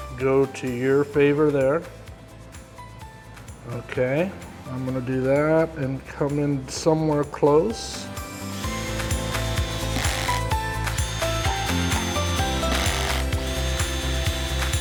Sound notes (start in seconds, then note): 8.2 drill whirring; 8.4 upbeat music